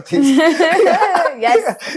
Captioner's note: laughs